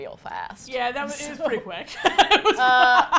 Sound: laughs

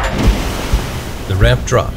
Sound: water splashes

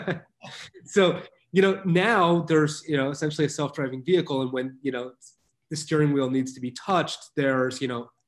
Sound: chuckles

